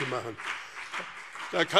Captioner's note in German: Beifall BÜNDNIS 90/DIE GRÜNEN und vereinzelt CDU